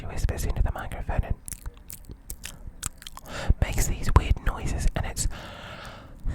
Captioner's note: makes mouth noises; takes a deep breath